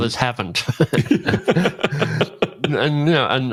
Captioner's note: laughs